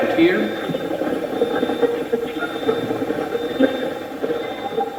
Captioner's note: Steve's Box chatters